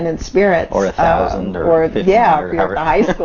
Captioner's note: laughs